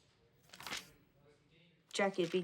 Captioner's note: page turning